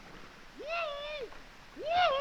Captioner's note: whooping